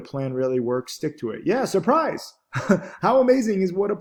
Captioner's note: laughs